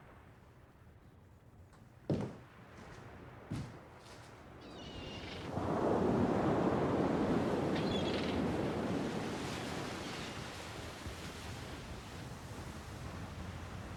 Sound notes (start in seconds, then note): 4.8 seagull calls; 5.4 waves crashing on shore